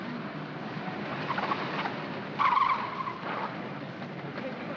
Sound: city street sounds; tires chirp

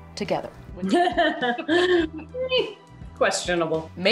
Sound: laughs

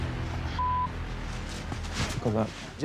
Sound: beep

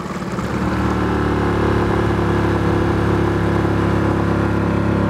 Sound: boat engine humming

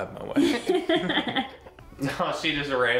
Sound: laughing

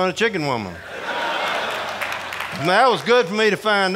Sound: audience laughing

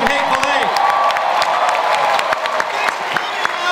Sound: audience cheering

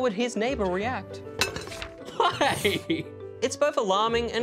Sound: laughs

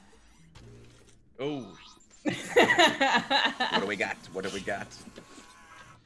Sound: laugh

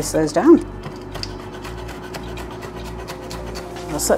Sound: chop chop chop

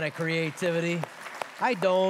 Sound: applause

